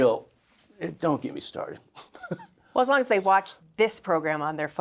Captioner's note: laughs